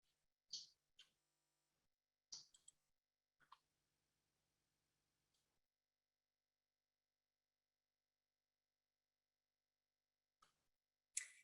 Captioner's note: silence